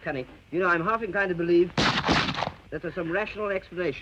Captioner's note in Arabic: طلقات نارية